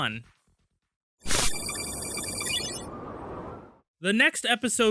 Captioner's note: digital typing